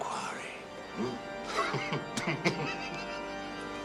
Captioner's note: chuckling